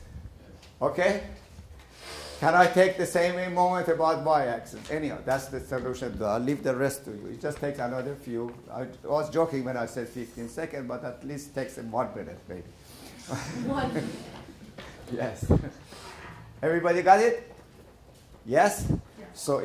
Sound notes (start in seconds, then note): 15.5 laughter